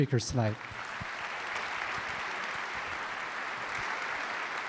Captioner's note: audience applauding